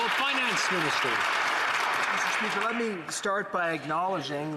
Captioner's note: some Applause